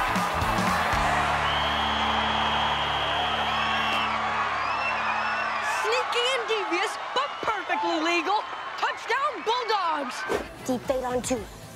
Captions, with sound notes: [whistle blowing] [cheering] Sneaky and devious but perfectly legal. Touchdown Bulldogs. Defade on two. Ready?